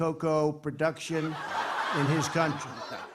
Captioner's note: laughter